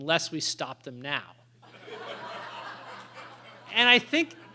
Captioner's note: laughter